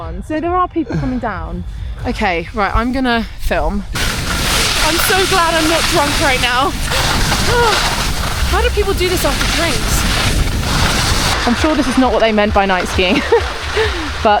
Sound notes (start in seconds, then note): 3.7 skis scrape; 6.8 sighs